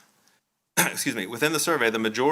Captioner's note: clears throat